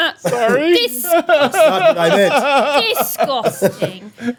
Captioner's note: laughing